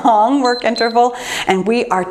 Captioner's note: timer beeps